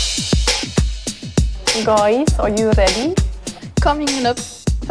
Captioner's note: bavarian accent